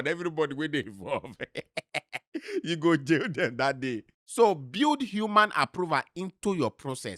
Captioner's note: laughing